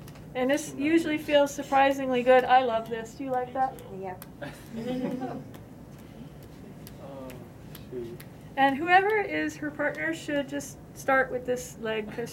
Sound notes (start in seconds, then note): 4.4 laughter